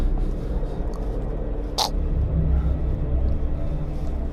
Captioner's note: Barry chocking